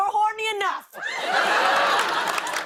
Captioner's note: laughter